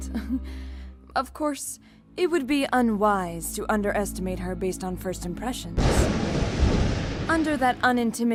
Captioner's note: chuckle; thunder